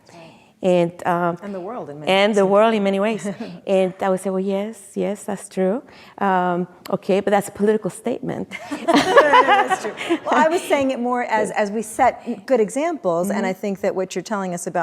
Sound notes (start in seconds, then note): 8.6 laughs; 8.6 audience laughing